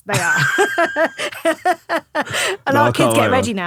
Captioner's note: laughing